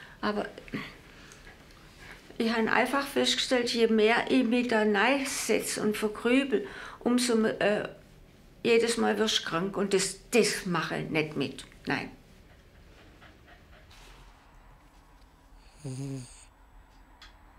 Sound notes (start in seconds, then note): 15.6 Helga snores